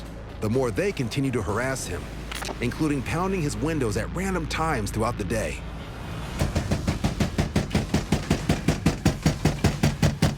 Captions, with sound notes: the more they continue to harass him, including pounding his windows at random times throughout the day. [window banging]